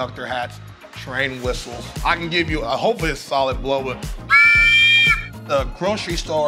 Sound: whistle

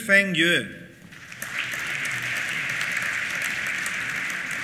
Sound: applause

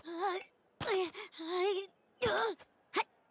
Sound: grunting

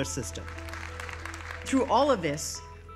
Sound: audience clapping

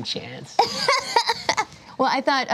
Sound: laughs

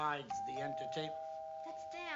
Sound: doorbell rings

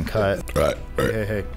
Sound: belches twice

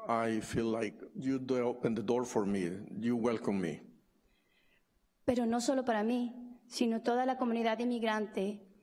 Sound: speaking spanish

